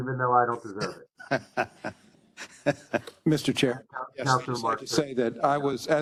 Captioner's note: laugh